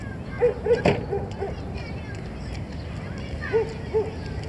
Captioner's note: dog barking